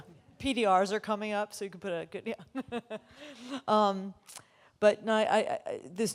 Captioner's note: laughs